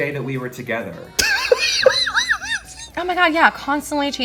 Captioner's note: muffled laughter